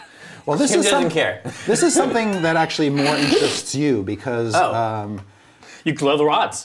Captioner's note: chortles